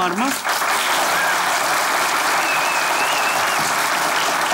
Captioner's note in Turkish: Alkış sesleri